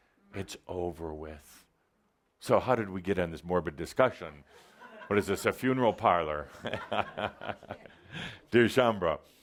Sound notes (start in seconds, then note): 6.5 Adamus chuckles